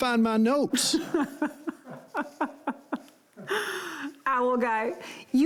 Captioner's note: laughs calmly